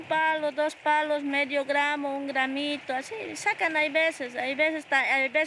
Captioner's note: speaking in foreign language